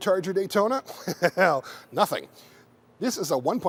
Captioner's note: chuckling